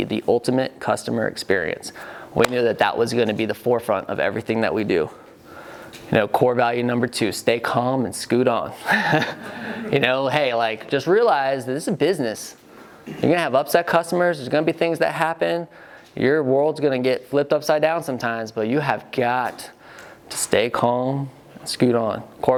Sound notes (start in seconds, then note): 8.8 laughing